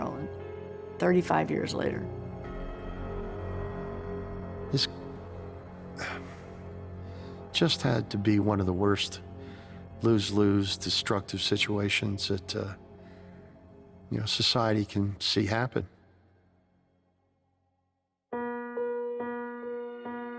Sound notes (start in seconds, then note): 5.9 sighing; 18.3 melancholy music